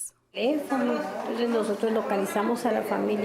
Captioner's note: speaking Spanish